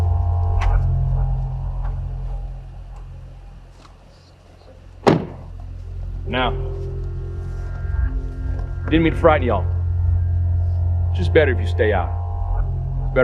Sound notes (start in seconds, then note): 5.0 door closes